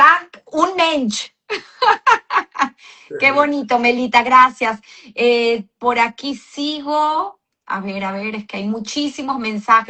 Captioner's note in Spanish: risas